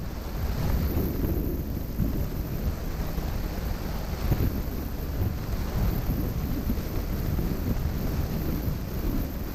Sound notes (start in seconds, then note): 1.3 sound of water